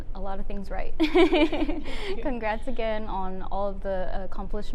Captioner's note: laughs